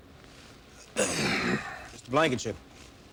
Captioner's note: grunts